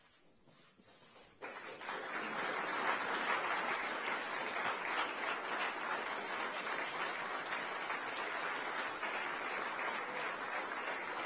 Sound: applause

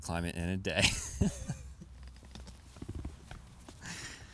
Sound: laughs

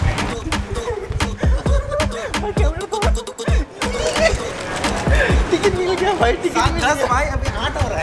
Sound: happily laughing and moving

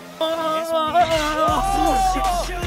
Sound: bump!

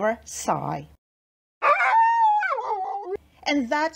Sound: howls a little

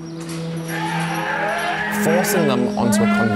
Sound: goat screaming

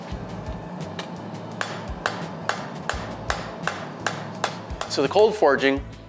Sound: metal clangs

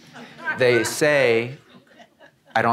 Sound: audience laughing

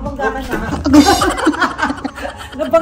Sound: laughter

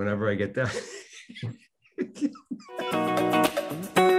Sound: Denis laughing uncontrollably; upbeat music

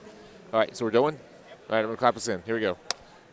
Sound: clap

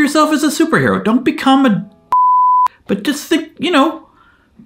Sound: beep

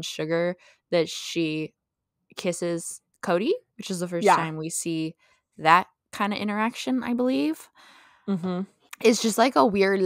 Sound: mhmm

